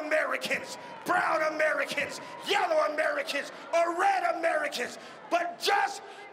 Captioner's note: crowd shouting "together."